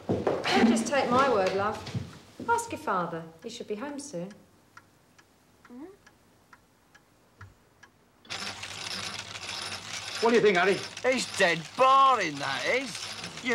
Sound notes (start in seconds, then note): 5.9 confused noise; 8.2 sound of reel rotating